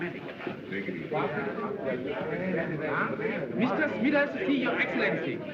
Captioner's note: chatter